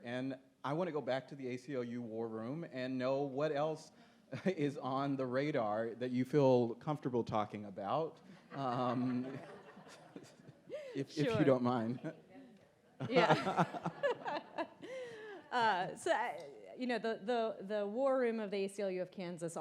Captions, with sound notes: And I want to go back to the ACLU war room and know what else is on the radar that you feel comfortable talking about, (audience laughs) if you don't mind. - Yeah. (laughter continues) So the war room of the ACLU of Kansas,